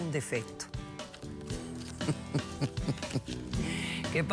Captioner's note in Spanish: risas